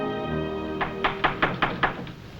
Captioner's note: knock